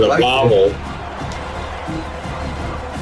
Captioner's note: crowd Noises